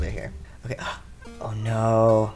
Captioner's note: gasp